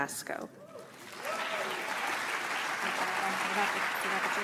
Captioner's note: audience applauds